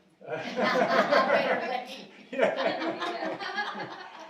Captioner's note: audience laughing